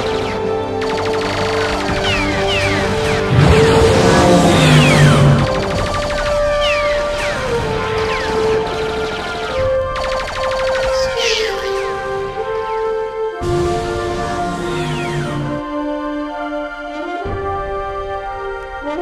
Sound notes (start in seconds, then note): 0.8 gunfire; 3.2 vehicle engine starting; 5.3 gunfire; 11.3 in Clay Speech; 13.6 vehicle accelerating